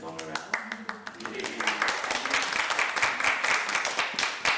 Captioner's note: applauding